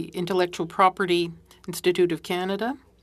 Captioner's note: speaking French